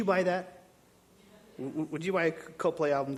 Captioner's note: audience murmuring agreement